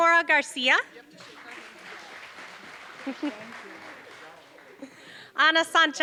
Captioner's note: applause